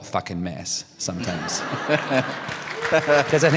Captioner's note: laughter, applause